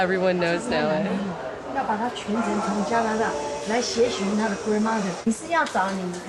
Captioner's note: speaking in foreign language